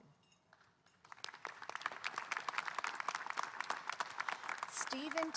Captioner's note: audience applauding